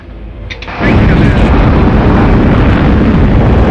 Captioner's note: roaring